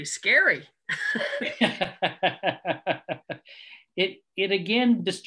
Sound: laughing

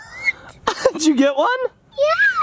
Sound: laughs

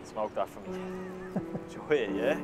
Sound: laughs

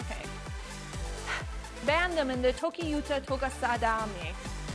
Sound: sigh

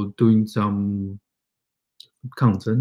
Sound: speaks mandarin

